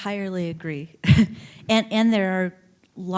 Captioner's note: chuckling